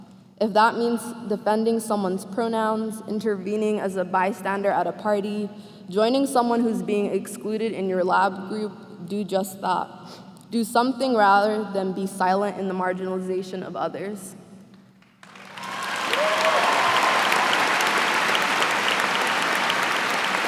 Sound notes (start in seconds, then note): 15.2 cheers and applause